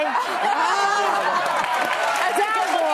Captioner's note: applause